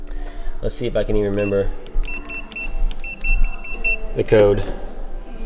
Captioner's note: beeping